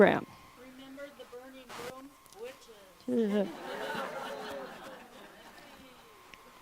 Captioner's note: laughter